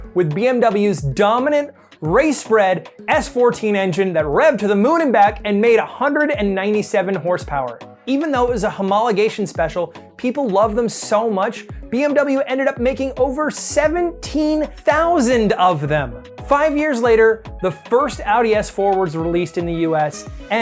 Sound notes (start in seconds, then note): none